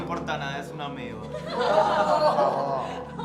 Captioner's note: laughter